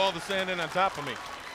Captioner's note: crowd chatter